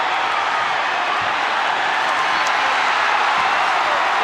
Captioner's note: audience cheering